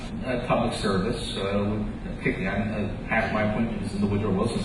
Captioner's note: voice echoes